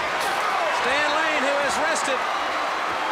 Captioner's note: crowd cheering